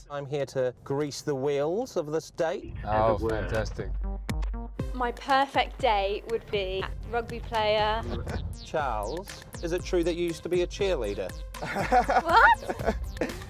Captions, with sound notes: I'm here to grease the wheels of this date. Oh fantastic. My perfect date, would be rugby player ... Charles, is it true that you used to be a cheerleader? [ Laughter ] What?!